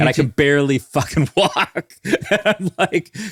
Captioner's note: laughs